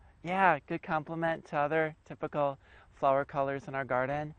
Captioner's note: voiceover